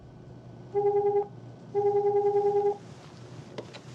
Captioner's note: phone ringing